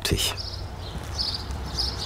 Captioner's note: birds chirping